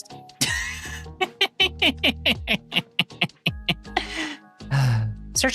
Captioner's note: laughing